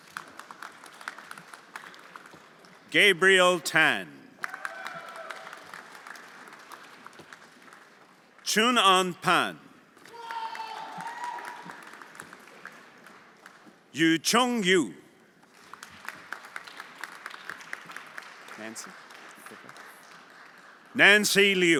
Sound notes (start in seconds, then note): 0.0 everyone applauding; 4.3 everyone applauding; 10.0 everyone applauding; 10.1 friends cheering; 15.5 everyone applauding